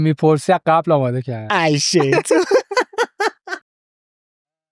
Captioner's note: laughs